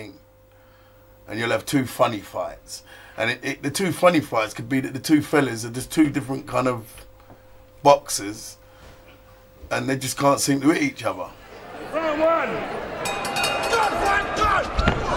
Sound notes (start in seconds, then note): 12.8 bell ringing